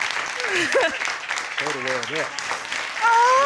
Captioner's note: battle laughs